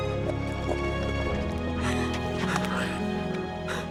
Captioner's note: sobs